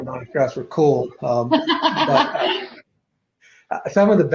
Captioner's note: laughing